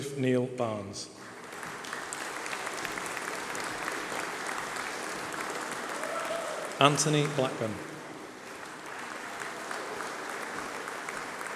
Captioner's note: applause